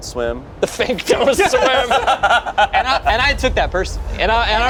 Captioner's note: group laughs